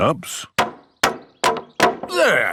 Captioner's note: hammering